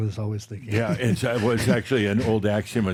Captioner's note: he chuckles